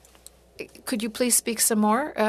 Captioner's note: speaking French